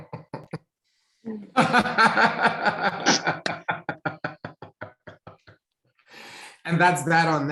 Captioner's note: laughing